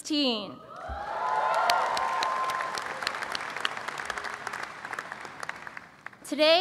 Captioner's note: applause and cheering